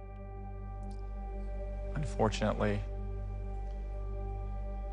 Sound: none

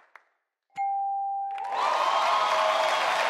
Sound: bell chimes; audience applause

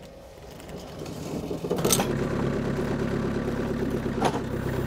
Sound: motor rumbling

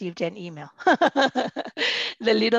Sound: laughter

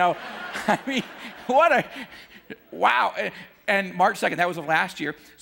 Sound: audience laughing

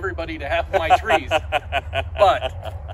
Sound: laughs

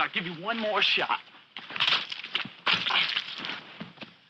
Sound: splattering

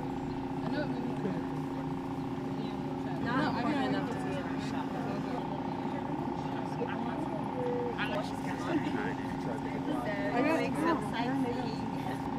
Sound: machine humming people talking indistinctly

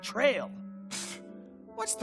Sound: scoffing

